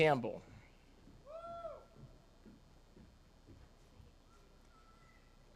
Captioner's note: attendee cheers